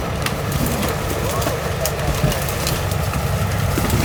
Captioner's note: leaves rustling; branches cracking; people chattering; branches cracking; leaves rustling